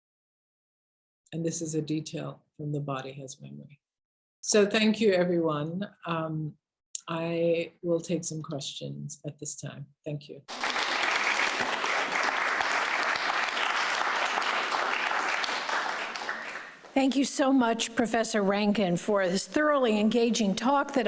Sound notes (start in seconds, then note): 10.4 audience claps